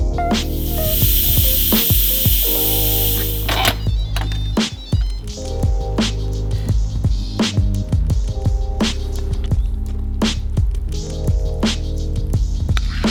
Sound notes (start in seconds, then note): 0.4 steam releasing; 3.7 machine beeping and being opened; 8.4 upbeat electronic music continues